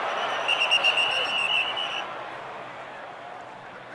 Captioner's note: whistle blows